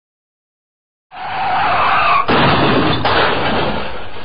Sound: screeching car

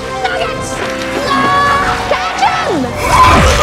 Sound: yells

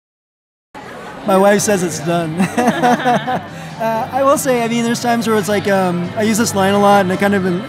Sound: laughter

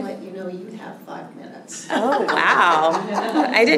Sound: laughter

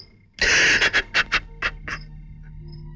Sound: sobbing

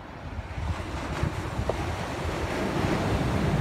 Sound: wind ambience; waves

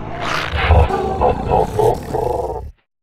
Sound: laughs

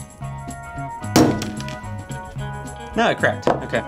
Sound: light airy music; banging

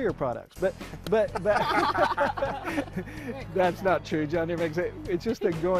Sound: laughter

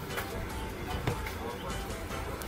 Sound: cup hitting counter

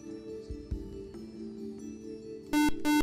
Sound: buzzer

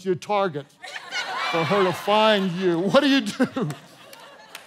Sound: congregation laughing

